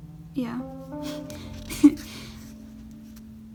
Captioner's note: laughs